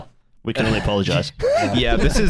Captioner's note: laughter